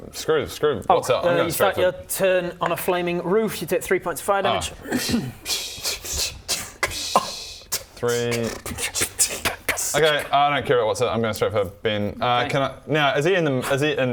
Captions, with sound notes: screw Wotsit I'm going straight for You start your turn on a flaming roof, you take 3 points of fire damage *tis but a scratch noises* 3 *scoffs* Okay I don't care about Wotsit I'm going straight for Ben can I, now is he is he in